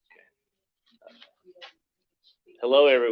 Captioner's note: background chatter